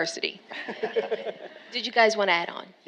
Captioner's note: all laughing